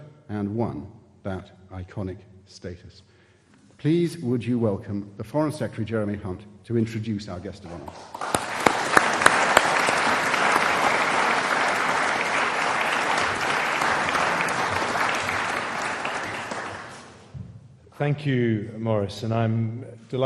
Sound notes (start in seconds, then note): 8.9 audience applauding